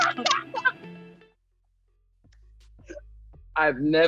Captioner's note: laughs